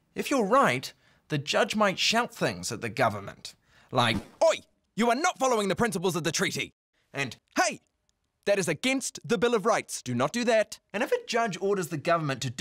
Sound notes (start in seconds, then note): none